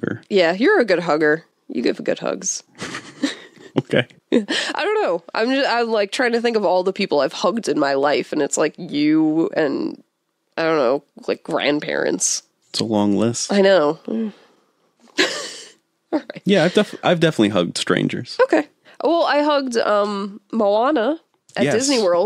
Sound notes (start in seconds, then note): 2.8 laughs; 16.2 laughs